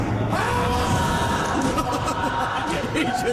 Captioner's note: screams